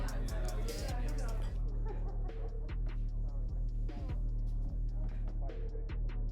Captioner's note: people chattering; distant party music playing